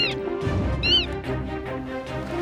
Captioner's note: manatee squeaks